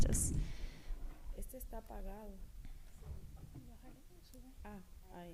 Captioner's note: speaking spanish